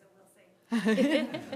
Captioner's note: laughter